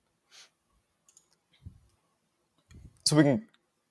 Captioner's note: mouse clicking